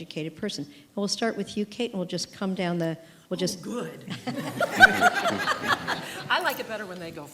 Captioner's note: laughter